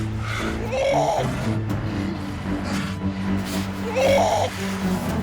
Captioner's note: sea lion pup groaning